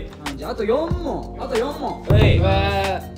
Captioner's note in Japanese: none